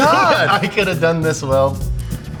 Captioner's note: laughter